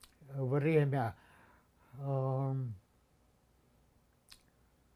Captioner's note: pause 7 seconds